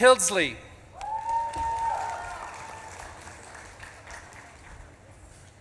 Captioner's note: audience claps and cheers